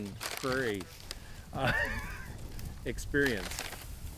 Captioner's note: laughs